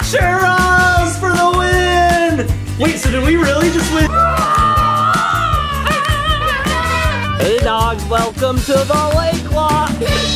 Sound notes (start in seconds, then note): 4.0 women wailing; 10.1 bright music playing